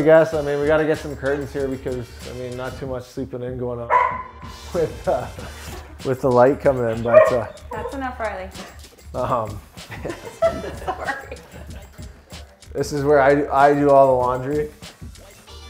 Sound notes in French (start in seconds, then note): 6.8 Aboiements